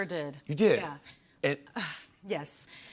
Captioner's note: none